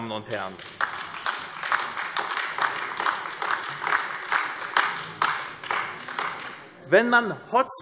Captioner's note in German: Beifall AfD